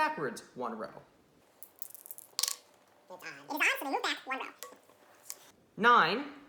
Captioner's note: fast Forwarded Sounds